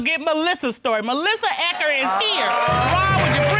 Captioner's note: audience laughs, applauds